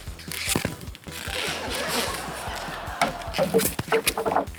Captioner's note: laughter